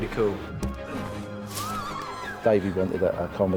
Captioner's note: grunts then crowd gasps